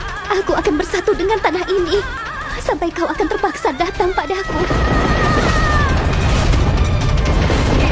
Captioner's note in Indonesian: tertawa